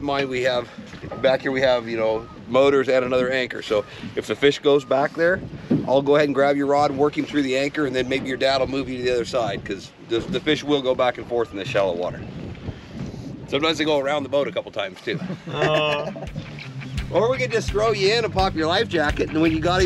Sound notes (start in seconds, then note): 15.0 laughing